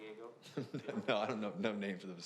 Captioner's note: laughs